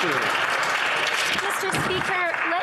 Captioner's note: some Applause